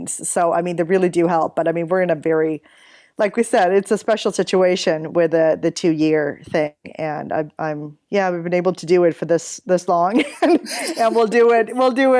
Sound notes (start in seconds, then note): 10.3 laughs